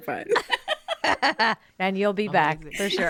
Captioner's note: laughing